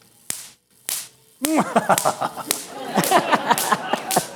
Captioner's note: manaical laughter